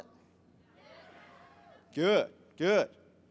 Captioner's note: crowd murmurs